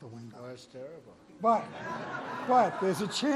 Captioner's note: laughter